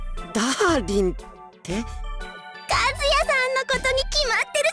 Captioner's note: none